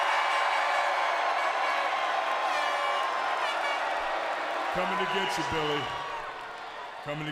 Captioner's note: crowd cheering